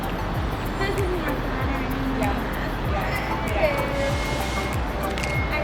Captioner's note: chattering and laughing